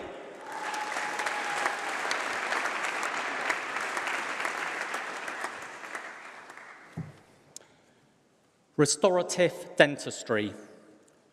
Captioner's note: applause